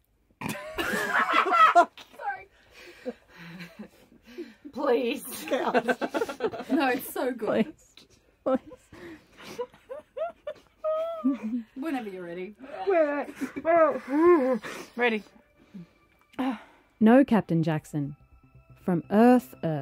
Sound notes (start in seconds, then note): 0.7 everyone loses it laughing again; 9.4 crying laughter; 12.7 wheezing